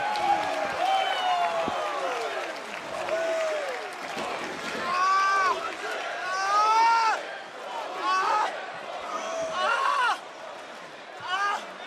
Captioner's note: crowd chants "holy --"